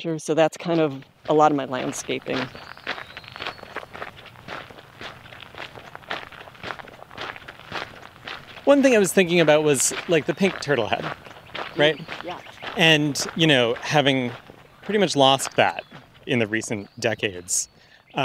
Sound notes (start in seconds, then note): 2.9 footsteps crunching on gravel